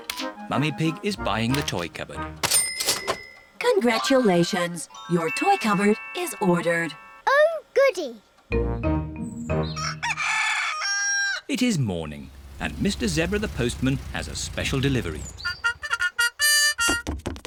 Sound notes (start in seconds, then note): 9.7 cockerel crows